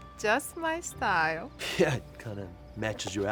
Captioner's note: laughs